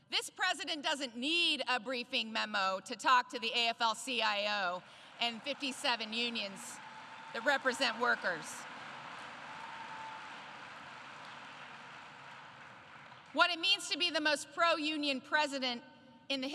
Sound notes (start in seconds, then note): 9.2 applause